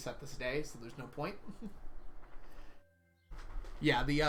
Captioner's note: chuckles